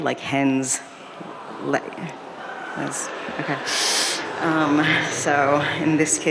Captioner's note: audience laughing